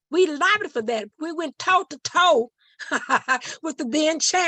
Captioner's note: chuckling